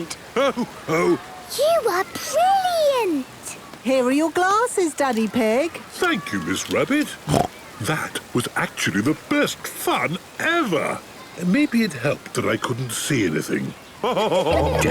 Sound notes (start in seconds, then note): 7.2 snorts; 14.0 laughing